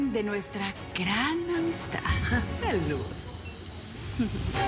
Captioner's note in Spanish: Chocan copas